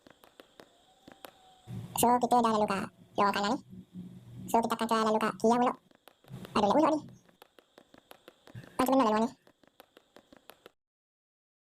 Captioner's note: speaking Fast